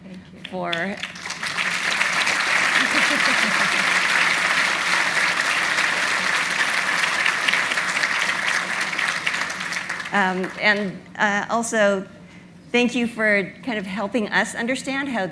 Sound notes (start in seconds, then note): 1.4 audience applauding; 2.8 laughs